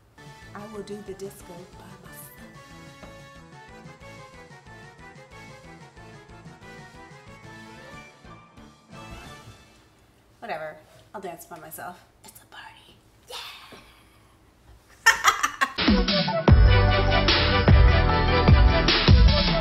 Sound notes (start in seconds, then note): 0.3 upbeat music continues; 15.0 laughing; 15.7 upbeat instrumental music